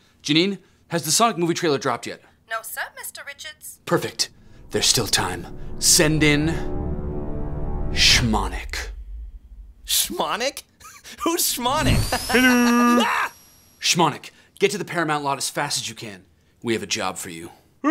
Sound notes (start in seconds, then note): 10.9 laughs; 12.2 Sonic screams